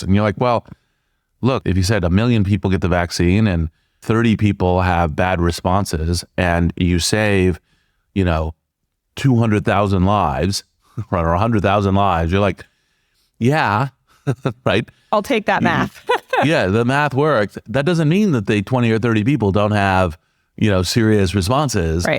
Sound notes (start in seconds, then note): 15.6 laugh